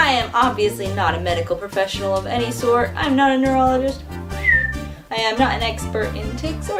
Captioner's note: whistle